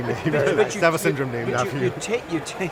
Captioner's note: laughs